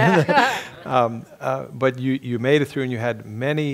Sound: laugh

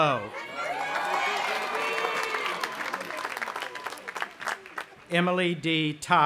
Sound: audience applauding and cheering

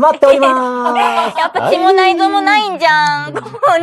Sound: laughs

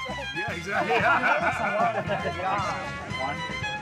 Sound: laughing

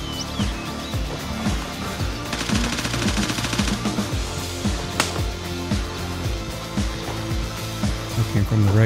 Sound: gunfire

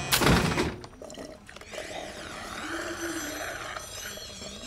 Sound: slurping soda

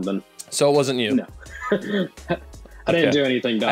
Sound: laughs

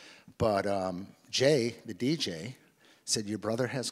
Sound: none

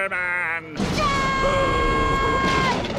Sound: screaming

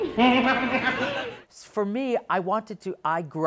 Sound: laughs

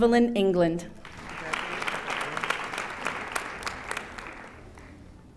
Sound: audience applauding

